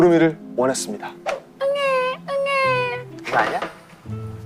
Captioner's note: crying